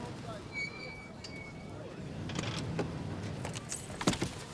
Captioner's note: brakes squeal